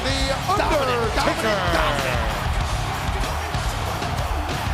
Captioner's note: crowd cheering